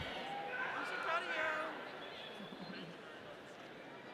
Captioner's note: audience cheering